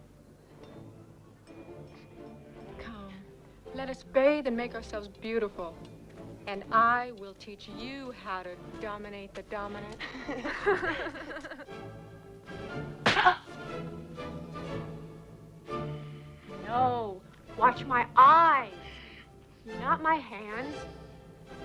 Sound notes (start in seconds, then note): 0.2 determined music; 10.0 both laugh; 13.0 slaps face; 13.3 Tracima grunts